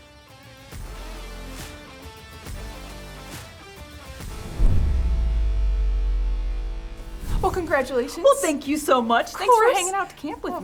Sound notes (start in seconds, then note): 0.5 upbeat music plays; 4.2 audio whooshes